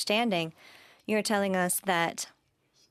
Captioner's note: speaking French